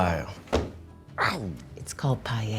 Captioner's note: hand thumps